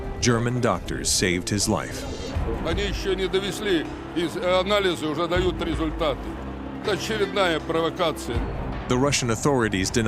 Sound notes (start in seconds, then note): 3.0 speaking Russian